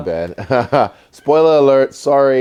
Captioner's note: laugh